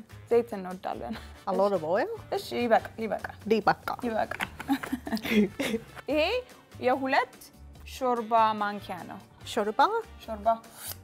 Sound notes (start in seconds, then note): 2.8 speaking Amharic